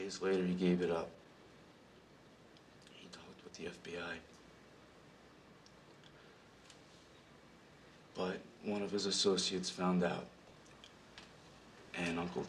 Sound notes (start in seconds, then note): none